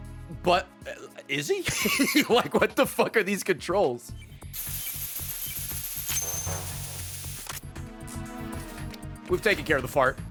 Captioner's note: laughs